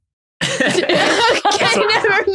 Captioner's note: group laughing